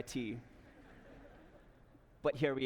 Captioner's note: laughter